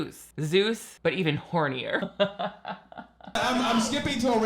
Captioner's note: laughs